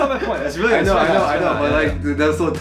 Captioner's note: laughing